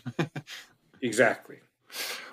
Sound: laugh

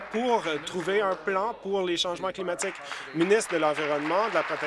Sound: applause

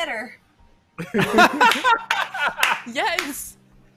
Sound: laughing

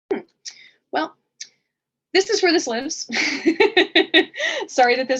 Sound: laughs

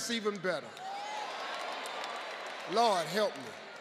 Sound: audience cheering

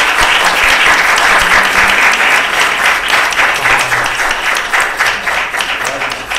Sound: applause

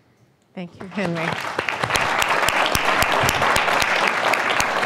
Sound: applause

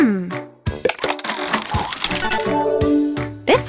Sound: cranking

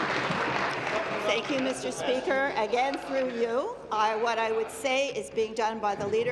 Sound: applause

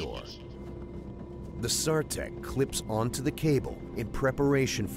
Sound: voiceover

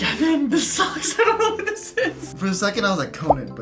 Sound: laughs

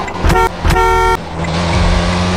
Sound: car honks

